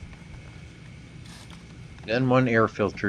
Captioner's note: cleaner spraying